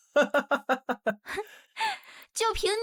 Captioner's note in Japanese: ハハハ